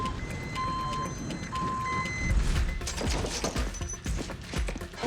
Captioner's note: trucks beeping